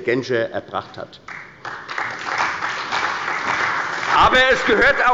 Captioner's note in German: Beifall bei der CDU und dem BÜNDNISSES 90/DIE GRÜNEN